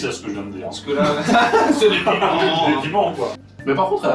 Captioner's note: laughs